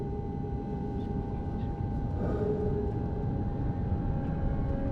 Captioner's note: faint whispering